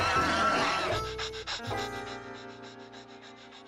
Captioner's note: panting